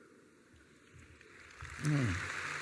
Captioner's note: applause